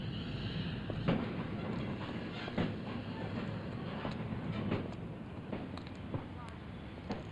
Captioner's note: footsteps